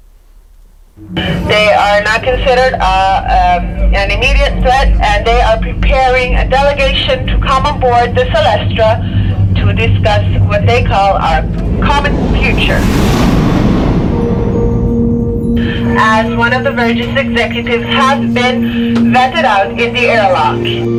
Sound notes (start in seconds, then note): 12.9 air whooshing; 13.9 gentle music